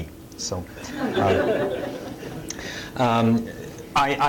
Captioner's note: laughter